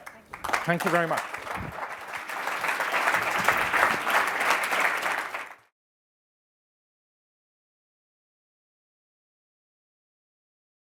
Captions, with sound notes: Alright. (applauding) Thank you very much.